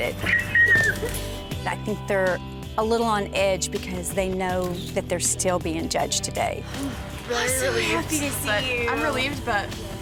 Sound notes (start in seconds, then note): 0.1 squealing excitedly; 6.7 sigh